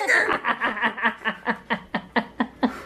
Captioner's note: laughter